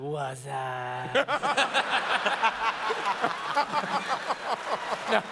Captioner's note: laughter